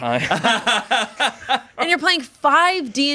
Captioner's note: everyone laughs